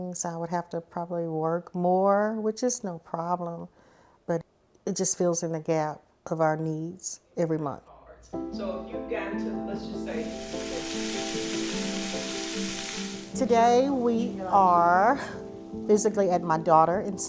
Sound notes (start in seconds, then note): 10.0 pan sizzling